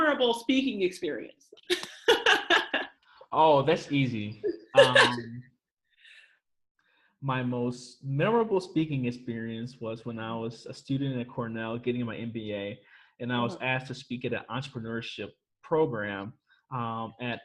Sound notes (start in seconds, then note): 1.6 laughs; 4.3 chuckles